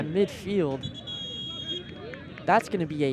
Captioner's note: whistle blows